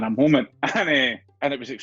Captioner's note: chuckles